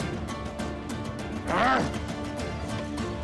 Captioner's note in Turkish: Bağırma sesi